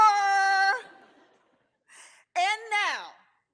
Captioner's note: audience chuckles